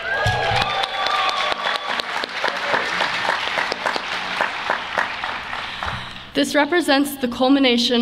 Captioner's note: applause